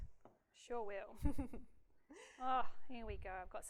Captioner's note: laughs